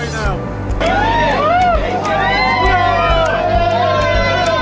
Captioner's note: crowd cheering